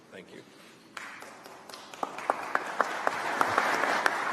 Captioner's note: applause